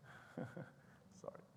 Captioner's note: chuckles